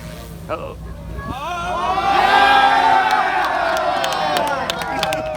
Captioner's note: crowd cheers and applauds wildly!